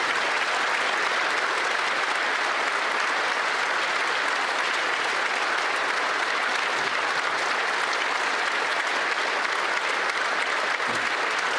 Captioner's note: some Applause